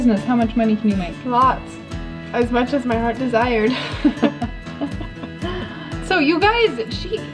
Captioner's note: both laugh